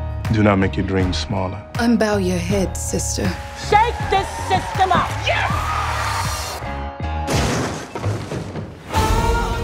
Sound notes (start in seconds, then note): 5.5 cheering; 7.2 slam